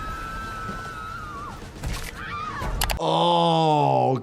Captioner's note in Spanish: gente gritando